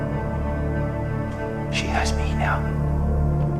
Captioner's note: whispers